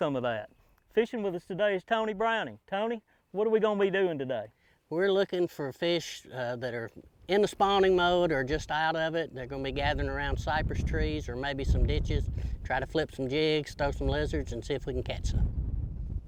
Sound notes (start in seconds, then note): none